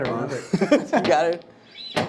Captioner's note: laughing